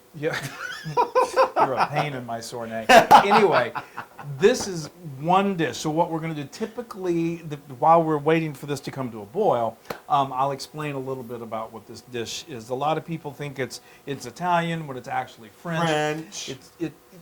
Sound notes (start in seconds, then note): 0.0 laugh; 2.8 laugh